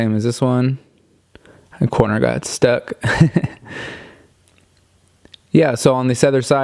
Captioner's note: chuckles